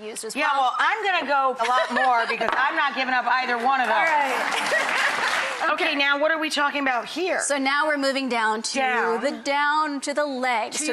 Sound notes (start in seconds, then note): 3.9 audience clapping; 4.5 laughing